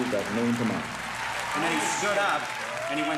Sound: audience cheers and applauds

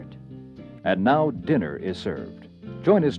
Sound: voiceover

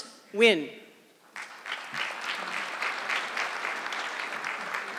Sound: audience clapping

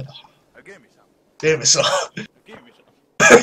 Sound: laughs

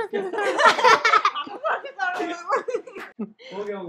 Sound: laughing

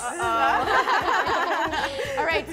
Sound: laughs

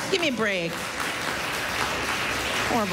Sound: laughter, applause

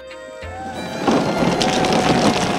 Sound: digging sounds

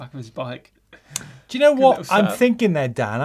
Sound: laughs

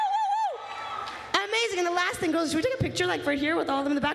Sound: applause

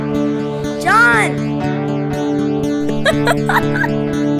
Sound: laughter

